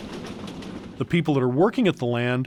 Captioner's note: train rattling